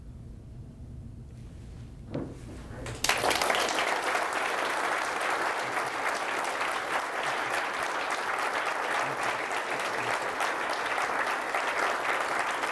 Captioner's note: audience applause